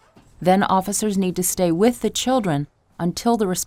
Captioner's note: voiceover